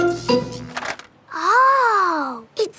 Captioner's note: buzzing